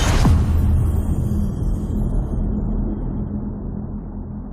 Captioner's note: dramatic sound